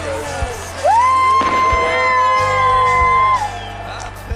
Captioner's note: crowd: WOO!